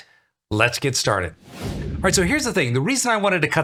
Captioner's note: frame whooshes